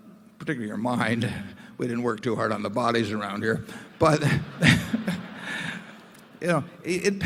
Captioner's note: laughter